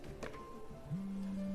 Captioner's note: cellphone buzzing